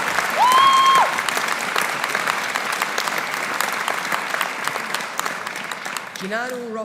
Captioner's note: audience applauding